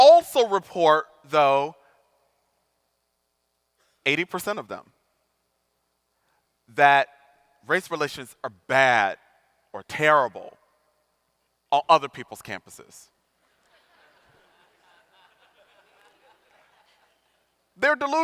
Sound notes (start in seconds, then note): 13.5 audience laughing